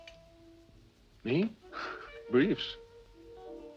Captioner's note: chuckles